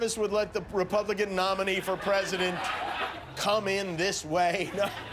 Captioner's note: laughter